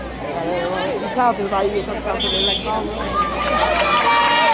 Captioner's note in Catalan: La gent anima; xiulet